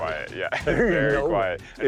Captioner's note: both laughing